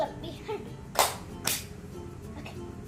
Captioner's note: clapping hands